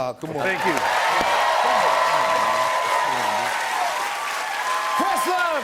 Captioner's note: cheers and applause